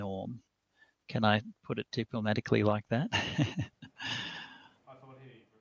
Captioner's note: chuckles